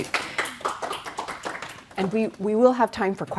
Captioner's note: applause